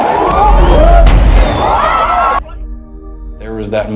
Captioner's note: speaking foreign language